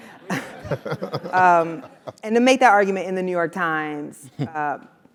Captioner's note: laugh